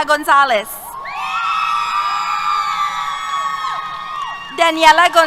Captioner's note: cheers